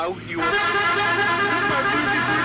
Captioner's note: bus horn